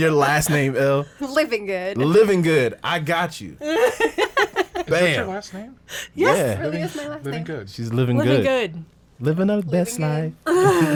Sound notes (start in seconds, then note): 3.6 women laughing